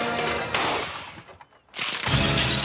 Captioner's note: crashing sound; inflate sound; crashing sound & moans